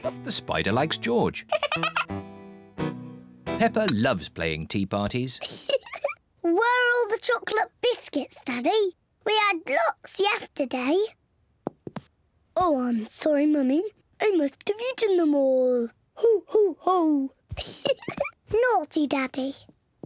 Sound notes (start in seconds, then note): 1.5 spider laughs; 5.4 laughs; 12.2 in deep voice; 17.6 giggles; 18.4 in normal voice